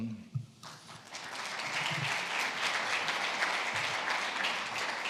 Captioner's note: attendees applauds